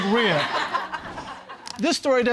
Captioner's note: audience laughing